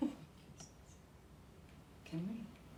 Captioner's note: whispering